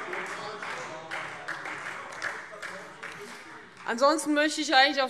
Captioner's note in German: Beifall Freie Demokraten - Zurufe AfD